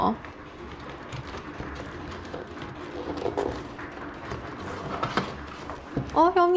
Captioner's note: the noise made by people dragging their luggage